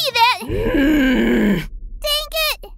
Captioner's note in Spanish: gruñido de desaprobación